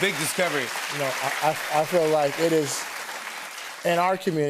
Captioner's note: applause